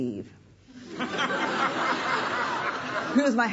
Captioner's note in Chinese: 笑聲